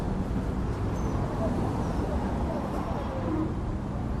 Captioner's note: city noises